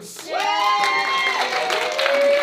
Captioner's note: cheering